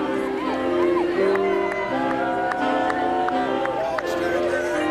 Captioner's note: whooping